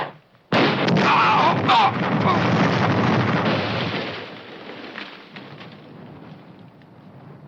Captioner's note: bomb exploding; men screaming